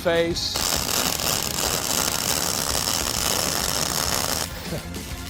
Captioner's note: welding tool sizzling